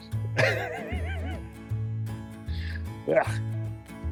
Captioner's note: laughing